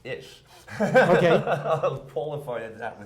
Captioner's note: laughing